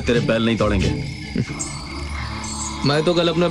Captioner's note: Chuckles